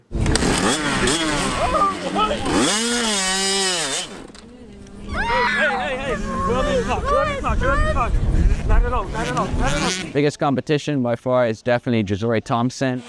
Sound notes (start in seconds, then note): 0.2 bike starts up; 0.2 rap instrumental stops; 3.9 bike cuts out; 5.0 screams